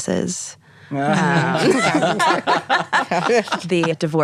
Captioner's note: laughing